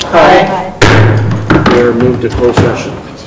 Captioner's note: thumping